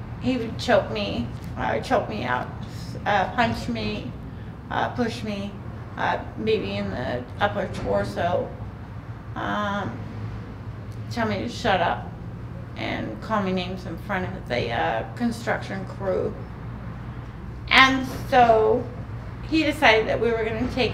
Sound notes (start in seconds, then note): none